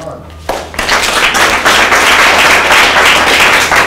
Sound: applause

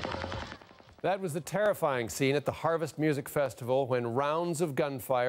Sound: gunfire

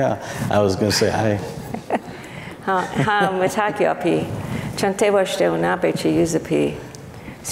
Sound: foreign speaking

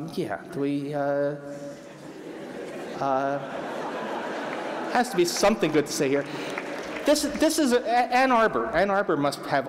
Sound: laughter; applause

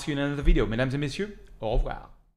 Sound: speaks French

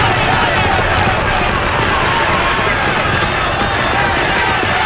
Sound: scream

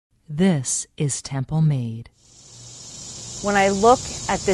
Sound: insects buzzing, birds chirping

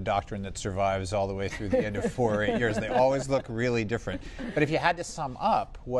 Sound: laughter

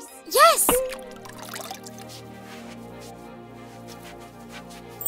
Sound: water trickles

